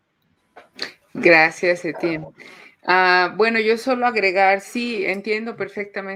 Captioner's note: speaking Spanish